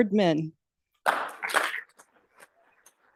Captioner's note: applause